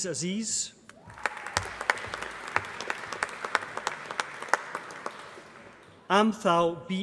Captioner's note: applause